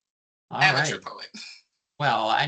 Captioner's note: chuckling